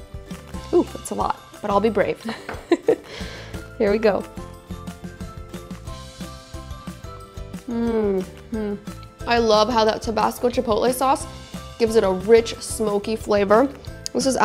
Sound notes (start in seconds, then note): 2.3 chuckles; 4.9 cheerful music; 7.6 moaning